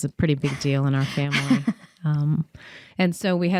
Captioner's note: laughing